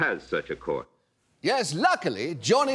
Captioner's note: mimicking niles welch